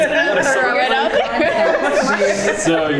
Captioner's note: everyone laughing